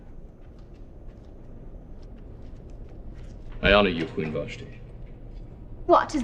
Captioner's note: door opens